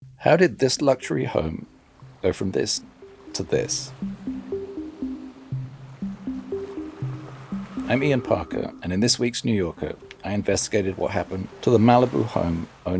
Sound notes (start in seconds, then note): 5.2 gentle music; 5.2 waves crashing